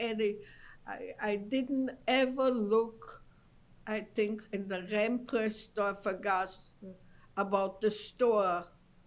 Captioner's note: non-english